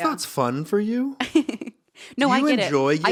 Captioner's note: laughing